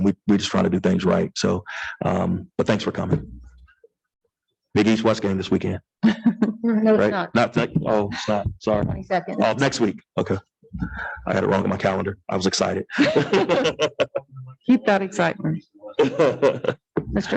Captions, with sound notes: And we were just trying to do things right. So, but thanks for coming. Big East/West game this weekend, sorry, next week. Okay. I had it wrong in my calendar. I was excited. (laughs) - Keep that excitement.